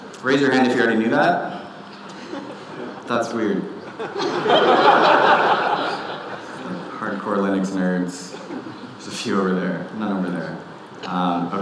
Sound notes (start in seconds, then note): 0.0 audience laughing; 3.8 audience laughing